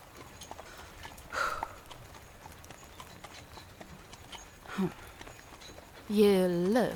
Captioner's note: sigh